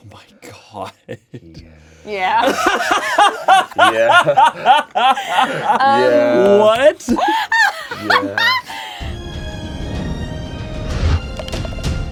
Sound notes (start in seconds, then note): 2.3 everyone laughs; 7.0 laughs